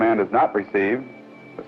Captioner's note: beeping sounds